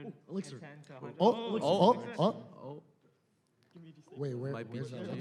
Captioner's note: players exclaiming